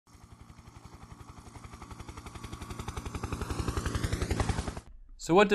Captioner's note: helicopter in flight